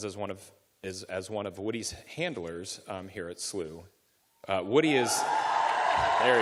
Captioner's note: cheering